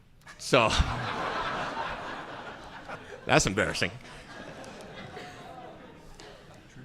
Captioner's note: audience laughing